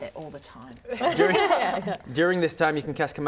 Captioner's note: laughter